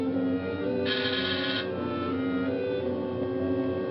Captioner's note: doorbell buzzing